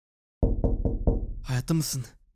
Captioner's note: knock knock